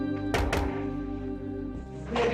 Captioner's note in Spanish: Toques en la puerta